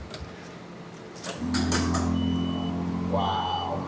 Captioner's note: engine purring; beeping